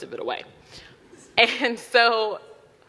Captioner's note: audience laughing